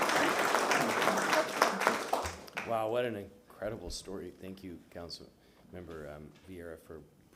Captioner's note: applause